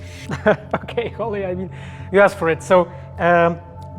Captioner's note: laughter